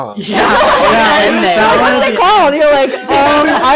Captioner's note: all laugh